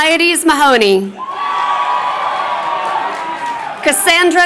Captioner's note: crowd cheering